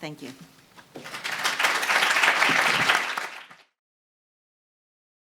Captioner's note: audience clapping